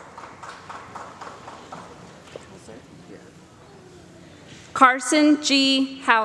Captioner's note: applause